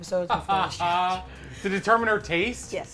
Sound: laughs

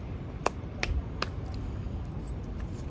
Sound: clap clap clap

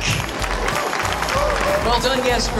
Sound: applause

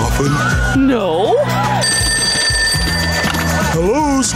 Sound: phone ringing

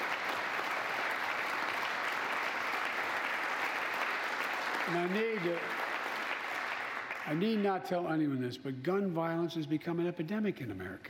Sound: applause

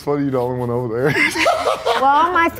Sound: laughs

